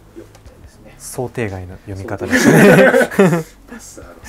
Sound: laughs

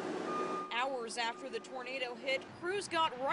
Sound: sound of truck

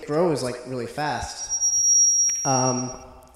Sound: mic feedback

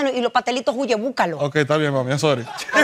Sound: spanish

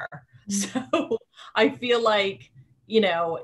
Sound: laughing

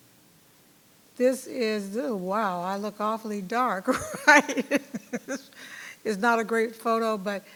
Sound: chuckles

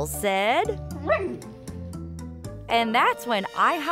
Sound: barking

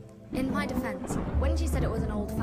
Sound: thunder crashing

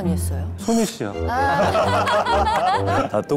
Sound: laughing

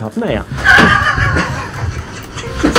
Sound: laughs

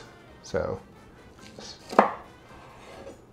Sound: chopping

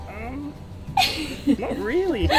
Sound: laughs

